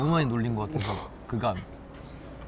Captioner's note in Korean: 쿨럭 쿨럭